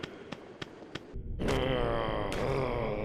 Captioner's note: groaning